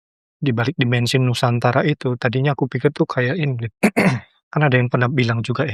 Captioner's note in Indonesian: berdehem